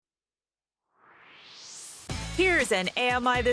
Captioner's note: swoosh